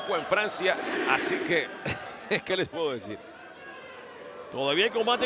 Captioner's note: laugh